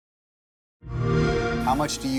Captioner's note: xbox sound